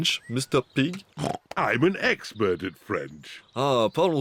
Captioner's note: brays; speaks french